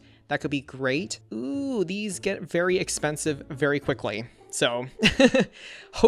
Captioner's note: laughs